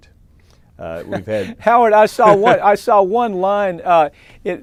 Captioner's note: chuckles